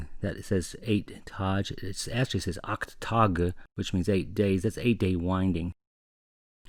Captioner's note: sounds out the German "acht tage"